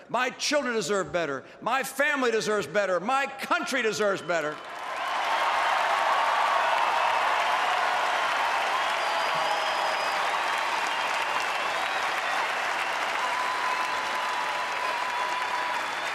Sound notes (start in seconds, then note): 10.6 applause